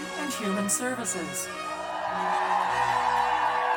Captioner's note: cheers